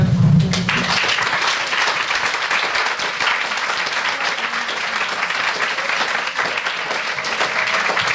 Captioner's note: audience applauds